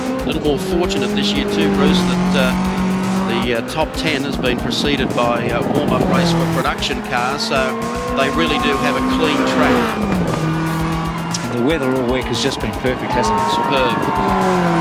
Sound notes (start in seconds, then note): 9.7 crowd noise